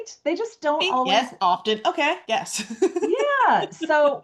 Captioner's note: laughs